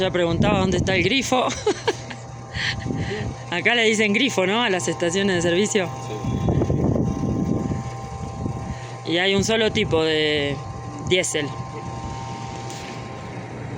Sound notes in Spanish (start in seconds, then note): 1.4 risas